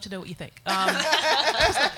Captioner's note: audience laughs